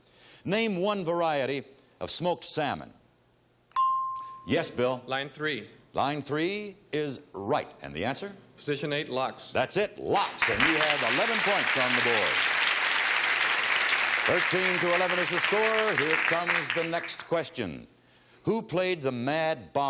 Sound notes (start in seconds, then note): 3.7 bell dinging; 13.5 audience applause